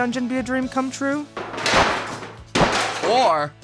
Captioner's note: sledgehammers pounding